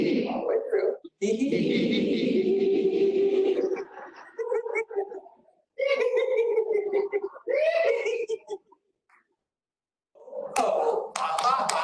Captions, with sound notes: All way through. Hee, hee, hee, hee, hee. [LAUGHTER] Ho, ho, ha, ha, ha.